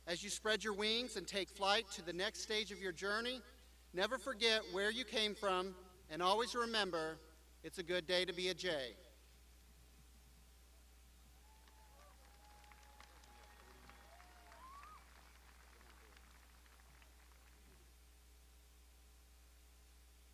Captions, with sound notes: As you spread your wings and take flight to the next stage of your journey, never forget where you came from and always remember, it's a good day to be a J. (graduands applauding)